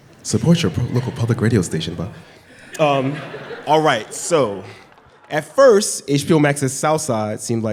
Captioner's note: laughter